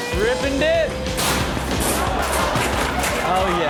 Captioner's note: locker cluttering and crashing